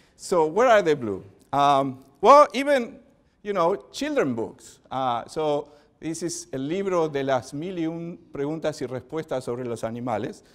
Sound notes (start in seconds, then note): 6.3 speaking spanish